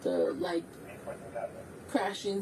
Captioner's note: radio chatter